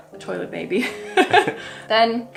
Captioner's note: laughs